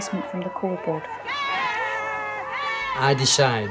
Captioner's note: shouting